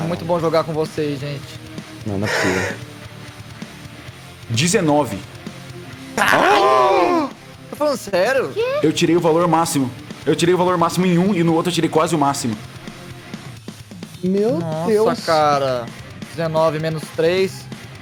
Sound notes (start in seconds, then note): 2.2 laugh; 6.2 surprised sound